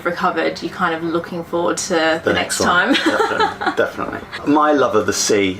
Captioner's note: laughter